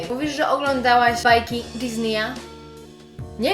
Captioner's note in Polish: wymówione po angielsku